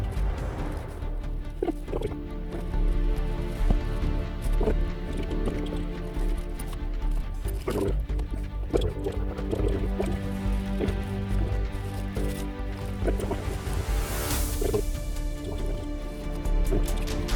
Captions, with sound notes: (dramatic music) Trees are bold and I can see them across the path. (water splashing)